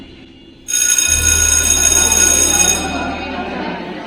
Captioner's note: bell Rings